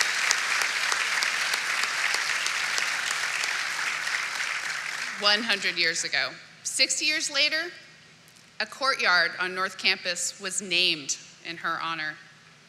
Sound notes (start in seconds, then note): 4.2 applause